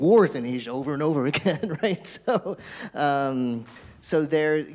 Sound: laughs

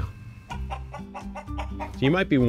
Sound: clucking

